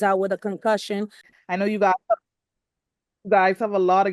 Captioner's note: audio drop